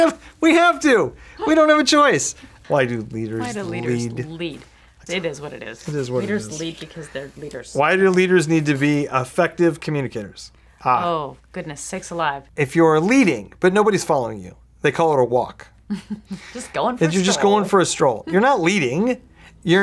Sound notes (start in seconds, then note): 15.9 giggling